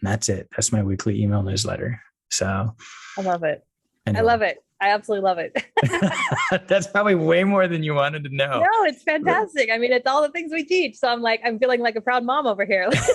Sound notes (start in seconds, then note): 5.6 laughing; 12.9 laughing